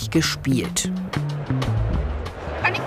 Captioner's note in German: Stimmengewirr